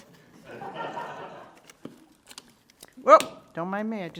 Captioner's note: audience laughing